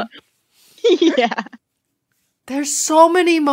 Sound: laughing

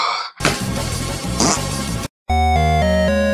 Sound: typical monster death sound

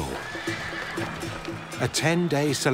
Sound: horse whinnies

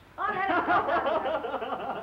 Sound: laughing

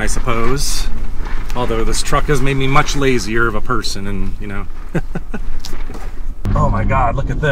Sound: laughs

